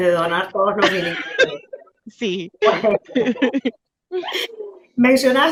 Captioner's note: risas